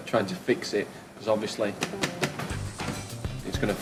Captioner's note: knocks